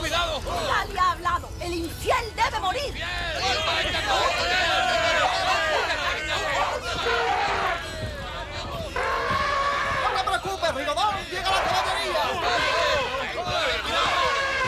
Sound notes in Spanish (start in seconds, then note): 6.2 gritan